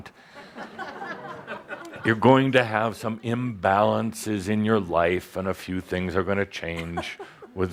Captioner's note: laughter